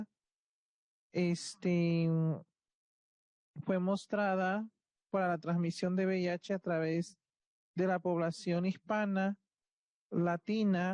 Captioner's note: speaking Spanish